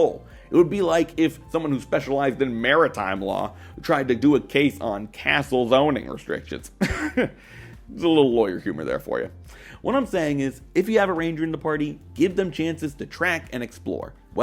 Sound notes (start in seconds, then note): 6.7 haughty Laugh